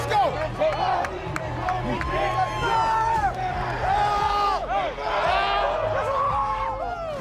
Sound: football players chanting and yelling

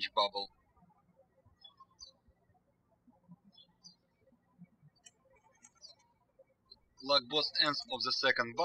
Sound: birds chirping

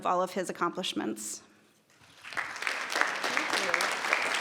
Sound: audience clapping

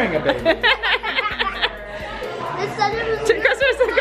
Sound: laughing

